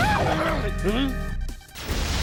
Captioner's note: whimpers